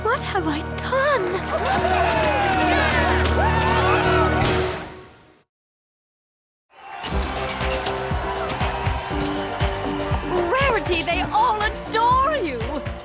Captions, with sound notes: What have I done? (shutters clicking) (cheers) Rarity, they all adore you!